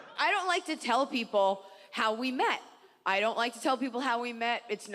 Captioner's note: none